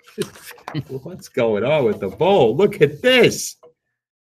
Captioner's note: laughs